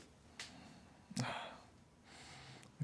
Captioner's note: sighing